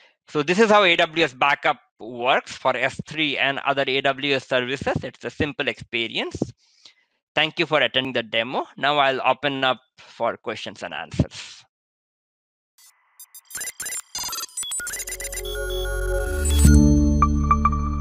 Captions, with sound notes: So this is how AWS Backup works for S3 and other AWS services. It's a simple experience. Thank you for attending the demo. Now, I'll open up for questions and answers. (computer clicking) (soft music)